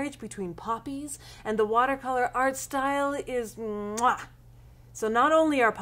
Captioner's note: kissing fingers sound